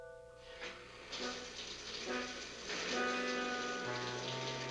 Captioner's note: shower running